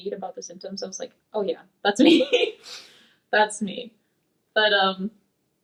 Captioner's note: laughs